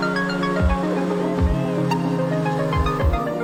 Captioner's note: snowmobile engine